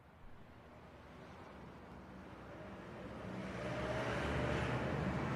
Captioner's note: traffic passing